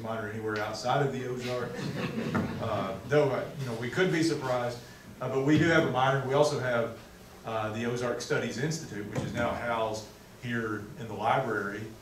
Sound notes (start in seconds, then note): 1.4 audience laughing